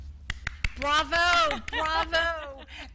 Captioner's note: audience applauds